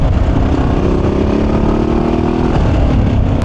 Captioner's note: motorcycle engine roaring